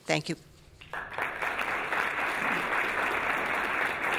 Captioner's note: applause